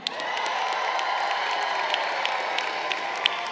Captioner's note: crowd cheering